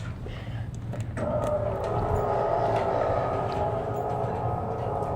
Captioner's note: mechanical whirring